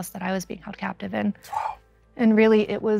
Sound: sighs

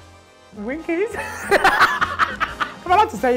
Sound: laughing

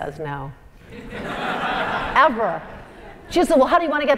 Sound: laugh

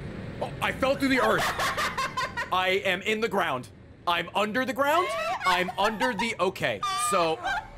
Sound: laughs; dying of laughter

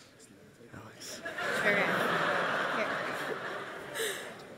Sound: audience laughs

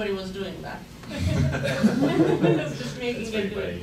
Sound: laughing

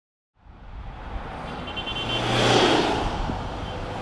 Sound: busy traffic

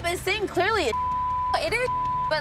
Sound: beep

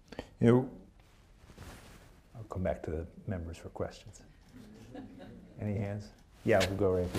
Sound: laughter

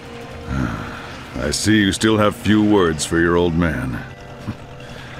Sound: sigh

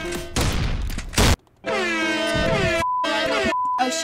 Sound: sad music; blaring

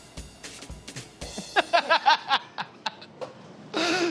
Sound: speaks French; laughs

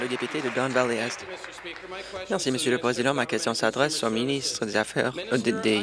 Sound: some Applause

